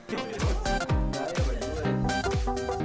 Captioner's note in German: Reden und Lachen